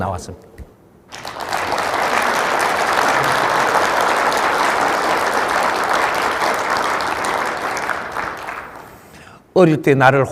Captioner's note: audience applaudes